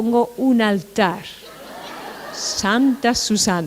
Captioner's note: laughter